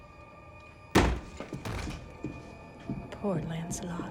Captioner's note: door thuds